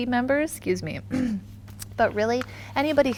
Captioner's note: throat clearing